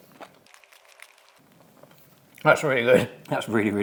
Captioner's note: palates clacking